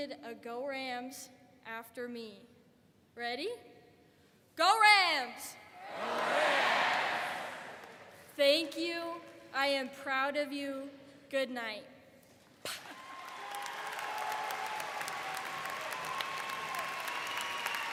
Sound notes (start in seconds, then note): 13.0 puffs out air; 15.0 audience cheers